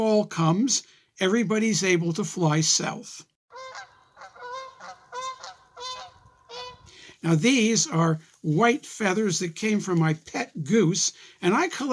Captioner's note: geese honking